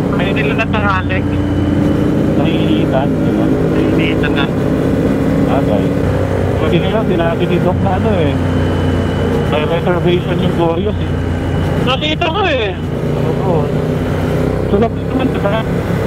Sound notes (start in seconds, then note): 4.0 distorted audio